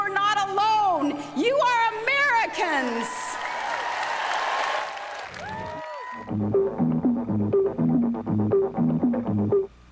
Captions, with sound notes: Look around you, you're not alone! You are Americans! [cheering]